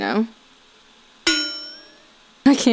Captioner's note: clang and wobble